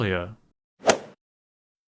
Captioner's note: swoosh